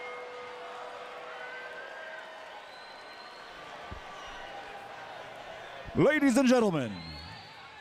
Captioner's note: crowd chatter